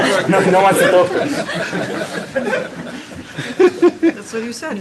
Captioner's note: laughter